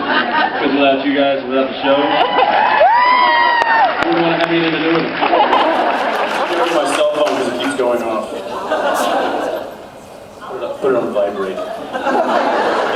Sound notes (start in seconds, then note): 1.7 cheers, applauds; 5.0 cheers, applauds; 5.6 laughs; 9.0 laughs